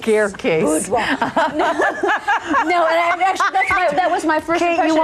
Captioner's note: all laughing